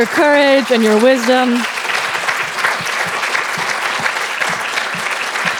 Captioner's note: audience applauding